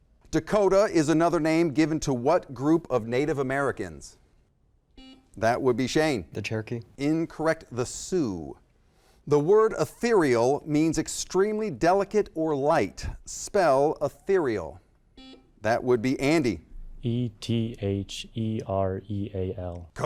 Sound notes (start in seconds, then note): 4.9 buzzer